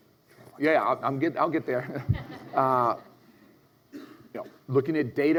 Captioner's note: audience laughs